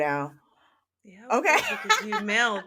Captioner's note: laughter